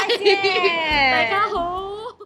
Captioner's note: in cantonese